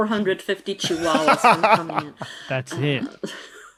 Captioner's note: laughs